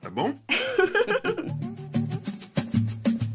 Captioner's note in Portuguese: Pai e Mari riem; samba ao fundo